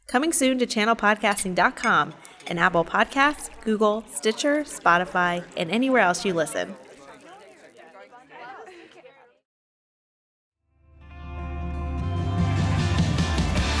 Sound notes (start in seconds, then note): 7.6 indistinct chatter; 11.1 rock music